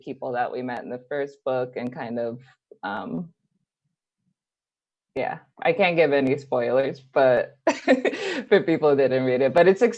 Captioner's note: laughs